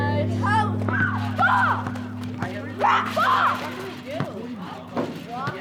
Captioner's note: children playing